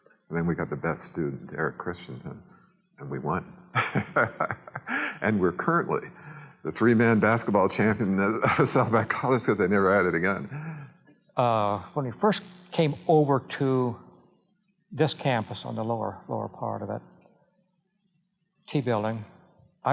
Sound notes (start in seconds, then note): 3.7 laughs